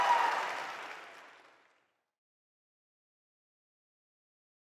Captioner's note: celebration sounds